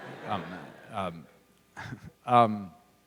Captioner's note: laughter